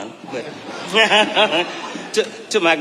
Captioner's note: audience laughing; laughing